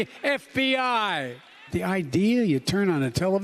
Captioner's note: applause; applause